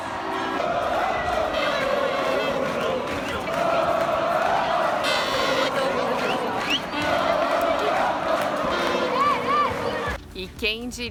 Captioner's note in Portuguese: gritos e aplausos